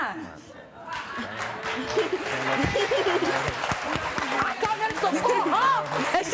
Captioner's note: clapping and cheering drowns out speech